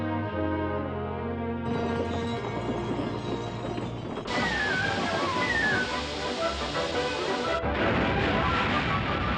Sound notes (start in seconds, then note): 1.6 rumbling, Chiming; 4.2 steam Hissing; 7.3 thunder Rumbling; 7.3 thunderclap